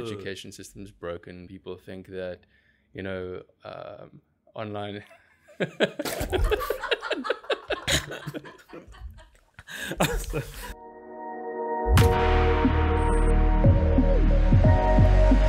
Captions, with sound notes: People say the education system is broken and people think that, you know, online... [Laughing]